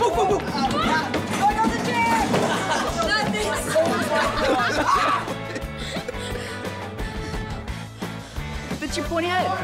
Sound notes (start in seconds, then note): 4.7 laughter and screaming